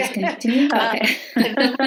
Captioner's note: laughing